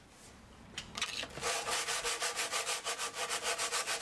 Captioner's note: scratching noises